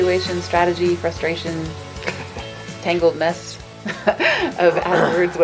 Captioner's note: laughs